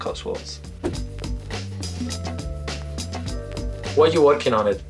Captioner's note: text swooshes